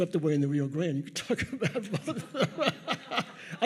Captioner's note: laughs